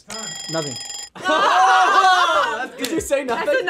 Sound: timer ringing

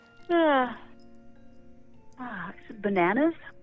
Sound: yawning

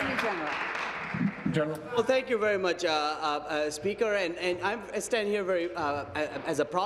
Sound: applause

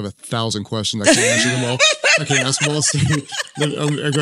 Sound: Cynt laughing

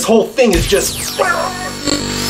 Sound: laser shot

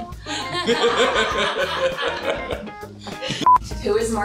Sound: laughter

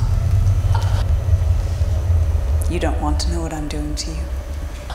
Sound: Michael gagging

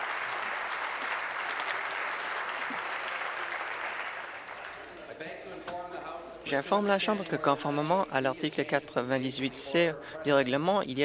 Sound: applause

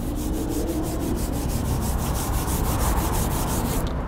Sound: rubbing sound

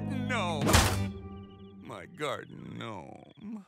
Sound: whap

